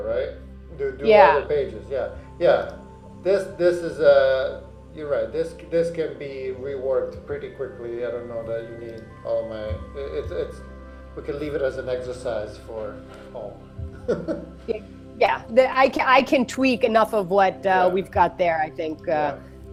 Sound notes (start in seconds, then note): 14.0 laughs